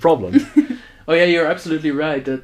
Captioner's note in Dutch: lach